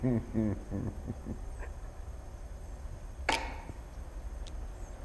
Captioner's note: crying